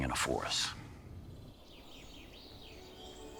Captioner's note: birds chirping; gentle music